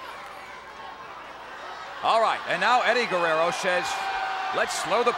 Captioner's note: applause